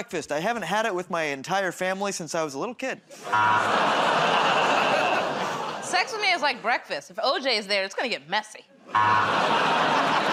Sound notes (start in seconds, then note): 3.3 buzzer; 3.3 audience "Oh"s